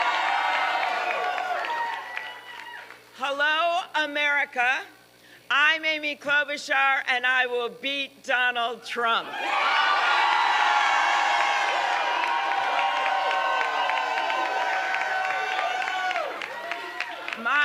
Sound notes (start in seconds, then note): 3.5 applause; 15.5 applause